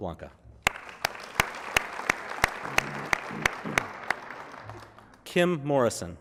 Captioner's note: applause